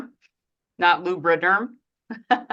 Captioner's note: chuckles